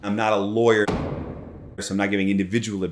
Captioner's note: dramatic bang sound effect